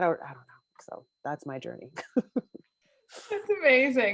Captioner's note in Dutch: chuckles